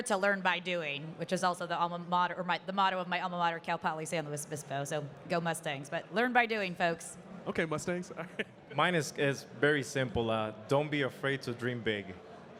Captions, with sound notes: to learn by doing, which is also the alma mater, or the motto of my alma mater, Cal Poly San Luis Obispo, so "Go Mustangs". But learn by doing, folks. - Okay, Mustangs. (chuckling) - Mine is very simple. Don't be afraid to dream big.